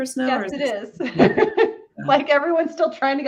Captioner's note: laughs loudly